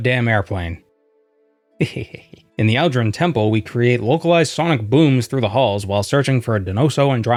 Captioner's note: giggle